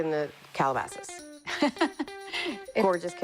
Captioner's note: laughs